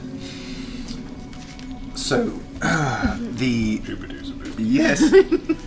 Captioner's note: voice breaks